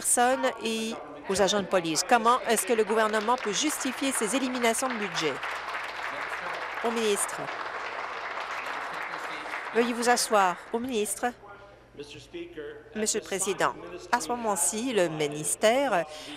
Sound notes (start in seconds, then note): 7.4 applause